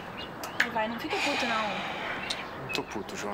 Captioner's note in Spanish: En portugués